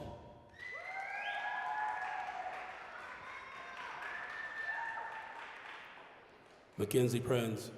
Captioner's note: applause, cheering